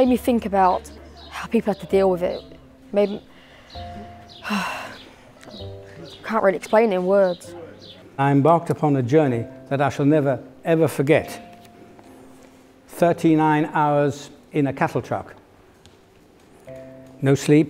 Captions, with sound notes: It made me think about how people have to deal with it. It made me [sigh] I can't really explain it in words. I embarked upon a journey that I shall never ever forget. Thirty-nine hours in a cattle truck.